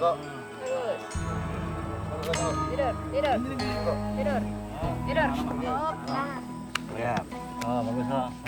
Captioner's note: inspiring music; speaking in foreign language